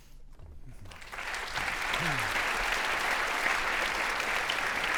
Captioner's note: audience applauding